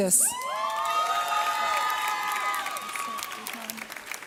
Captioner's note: audience cheers